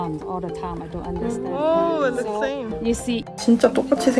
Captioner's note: audience reaction